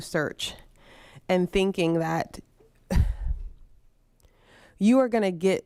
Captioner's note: scoffs